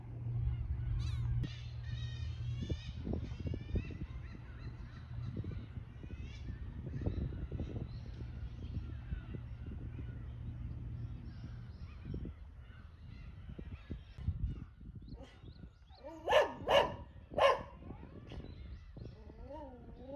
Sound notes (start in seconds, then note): 14.4 alert! Barking Sound